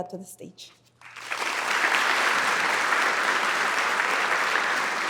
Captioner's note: audience applauding